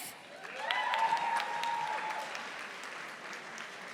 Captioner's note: audience applauding